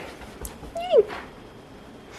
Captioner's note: excited squeal